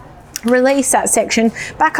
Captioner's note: shaft unclicks